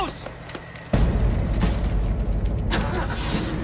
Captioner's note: Стартира двигателят на камиона